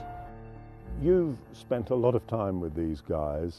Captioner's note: voiceover